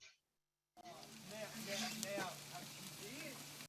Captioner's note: chattering